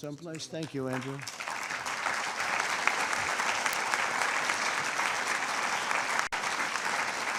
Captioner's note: applause